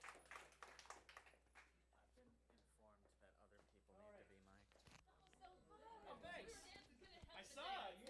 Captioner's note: applause